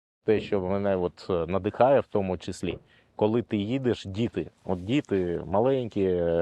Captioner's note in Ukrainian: none